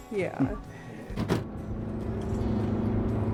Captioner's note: car doors shut; car accelerating